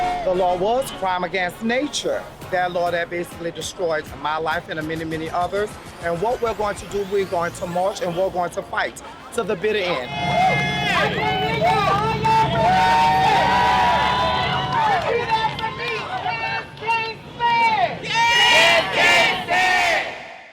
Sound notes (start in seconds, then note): 0.0 crowd cheering; 10.5 crowd cheering; 13.3 crowd cheering together; 18.2 crowd